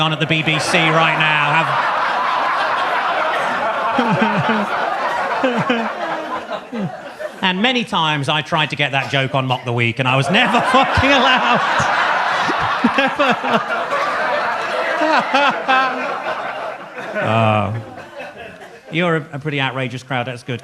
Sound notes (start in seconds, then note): 2.3 audience laughs; 10.0 audience laughs; 15.0 laughs